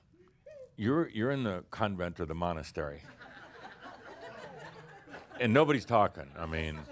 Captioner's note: laughter